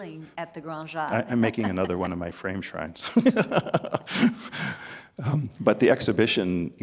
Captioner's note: laughs; laughs